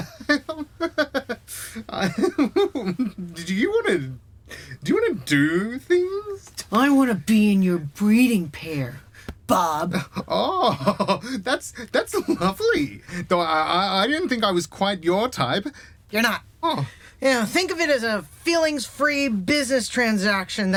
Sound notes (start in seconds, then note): 0.0 Bob giggles, nervous